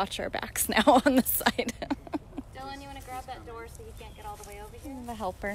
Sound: laughter

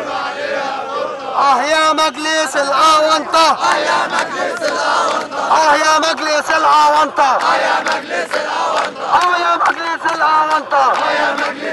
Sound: chants

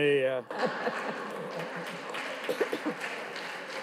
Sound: audience claps

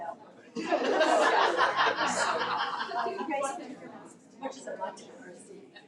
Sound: audience laughing

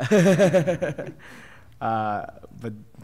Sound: laughter

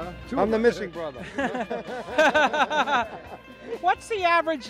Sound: laughing

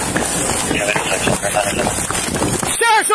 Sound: radio chatters

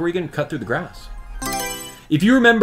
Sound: Mario Selection Sound

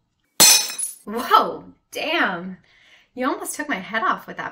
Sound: FX: Plate Shatters

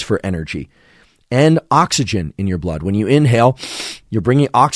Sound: inhales deeply

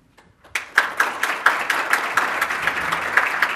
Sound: applause

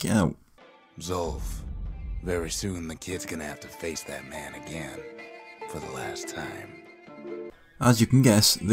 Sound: in-game audio

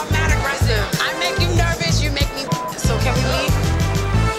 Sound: beep sound

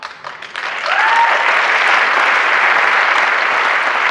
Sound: applause and cheering

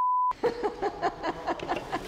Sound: laughing

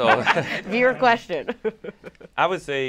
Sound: chuckles

